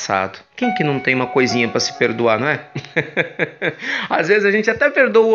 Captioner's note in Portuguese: risos